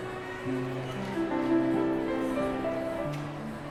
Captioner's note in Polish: zgiełk miasta w tle